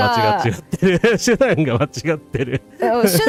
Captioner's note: laughter